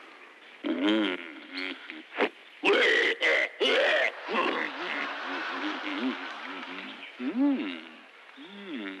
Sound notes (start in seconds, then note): 1.9 growling; 5.0 mumbling